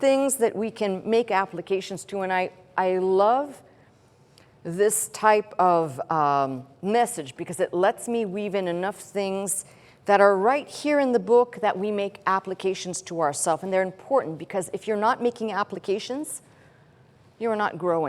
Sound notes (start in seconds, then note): none